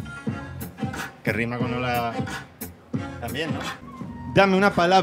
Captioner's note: in Spanish